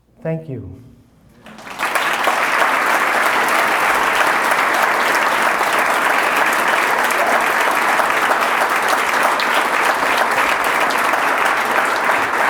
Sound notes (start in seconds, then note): 1.4 applause